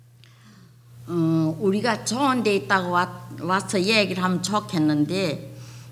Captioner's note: speaking foreign language